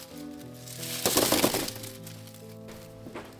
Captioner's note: dried garlic falls into a woven basket